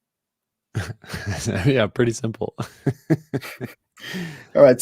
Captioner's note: laughs